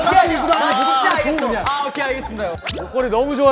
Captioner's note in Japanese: ｗｗｗｗ